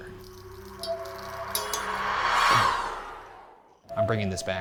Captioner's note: eerie music; rods rattling